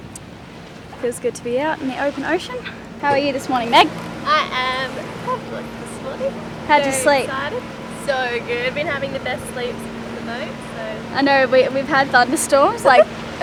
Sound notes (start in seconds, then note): 4.8 mumbles